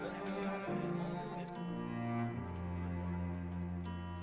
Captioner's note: clock Chimes 5:00pm